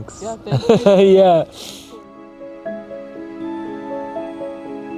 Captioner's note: laughing; gentle poignant music